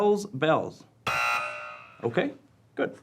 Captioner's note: buzzing